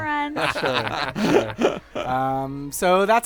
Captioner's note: laughter